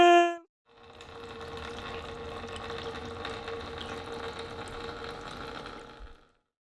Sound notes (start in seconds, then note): 0.8 water drips